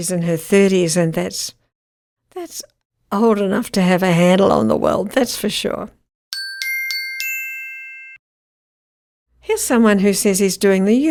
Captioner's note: chimes